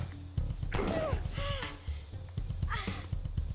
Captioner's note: groaning